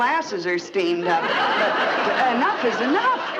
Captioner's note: audience laughing